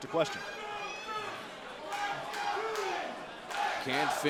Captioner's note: crowd cheering